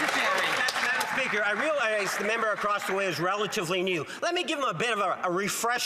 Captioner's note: some Applause